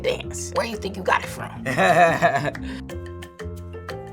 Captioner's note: laughs